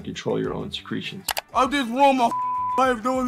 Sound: beep

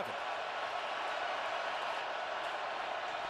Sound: crowd cheering

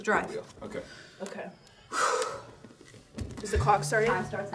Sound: sighing

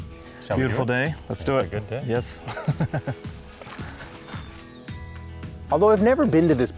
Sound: laughs

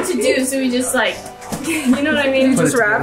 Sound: chuckles

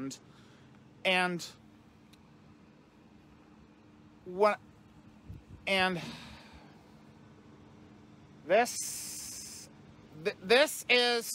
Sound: Ava stammering

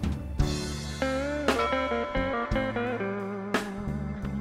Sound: bell rings; delta blues music

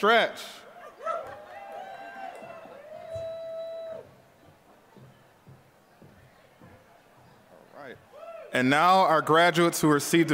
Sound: applause

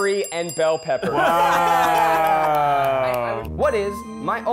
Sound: laughter

